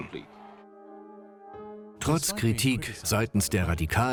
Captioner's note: voiceover